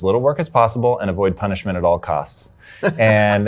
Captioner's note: laughs